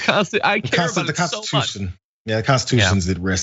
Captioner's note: laugh